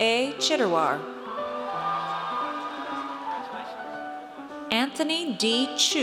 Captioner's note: audience cheers